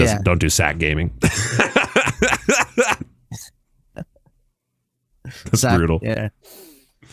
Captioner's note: laughing